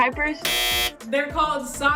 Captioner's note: buzzer sounds